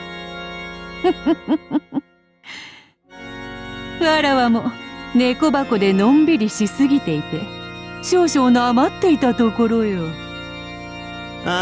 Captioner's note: cackle